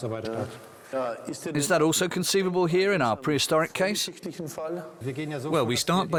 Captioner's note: in German